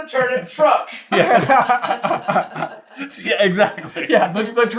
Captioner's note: team laughter